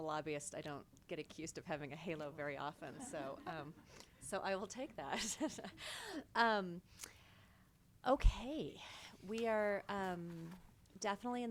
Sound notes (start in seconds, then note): 2.9 board members chuckling; 6.5 chuckles